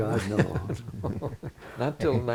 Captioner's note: laughter